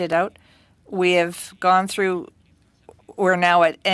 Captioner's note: speaking French